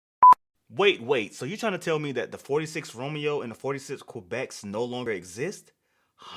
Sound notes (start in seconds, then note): 0.2 beep